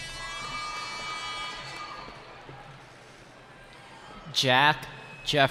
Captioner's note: cheering